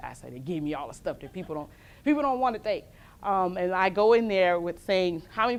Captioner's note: laughs; laughs